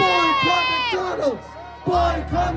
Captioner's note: croud chanting